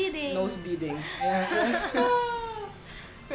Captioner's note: laughs